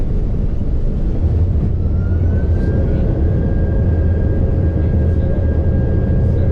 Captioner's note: airplane's engine whirring